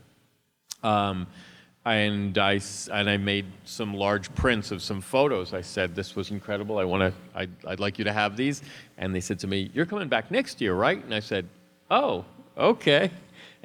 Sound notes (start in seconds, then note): none